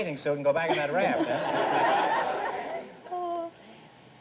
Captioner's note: audience laughter